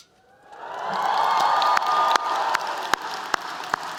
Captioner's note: applause